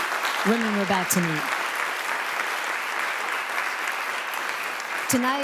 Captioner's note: applause